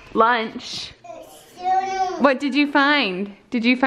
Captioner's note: girl babbles